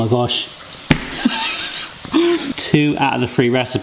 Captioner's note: bangs counter; laughs